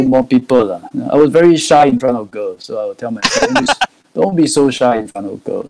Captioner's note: laughs